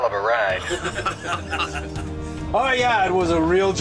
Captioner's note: both laughing